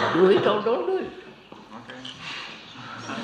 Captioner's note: laughter